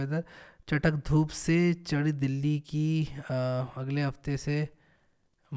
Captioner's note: reading news in Hindi